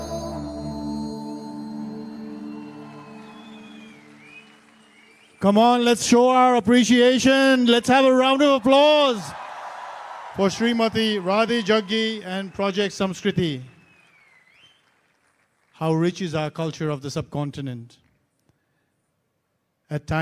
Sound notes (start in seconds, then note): 10.4 cheering/Applause